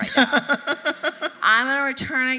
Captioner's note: laughing